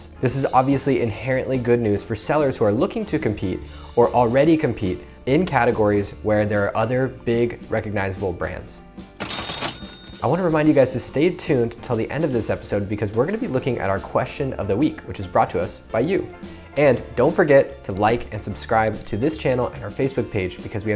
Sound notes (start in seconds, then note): 9.2 cash register dinging